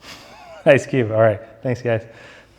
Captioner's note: laughs